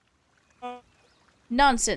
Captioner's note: horn honking